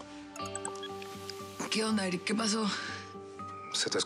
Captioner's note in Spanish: suena el teléfono